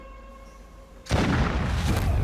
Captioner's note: gunshot